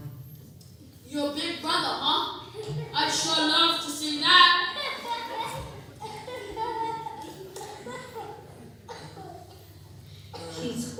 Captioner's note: laughter